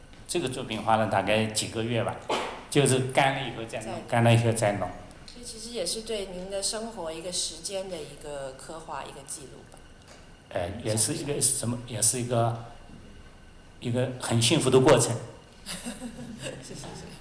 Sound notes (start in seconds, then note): 0.7 Mandarin; 5.9 Mandarin; 11.8 Mandarin; 15.6 laughter; 16.6 Mandarin